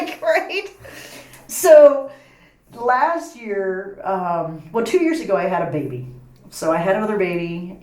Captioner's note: laughs